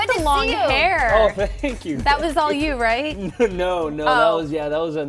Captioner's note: laughter